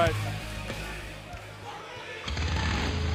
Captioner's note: crowd cheering